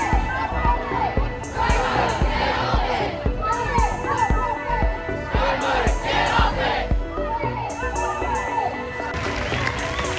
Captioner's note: chanting